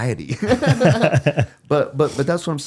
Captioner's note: both laughing